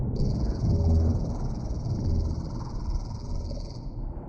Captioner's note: Sonic screwdriver buzzes